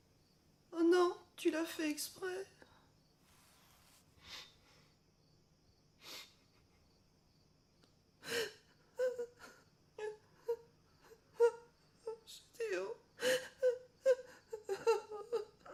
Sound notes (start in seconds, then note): 8.9 crying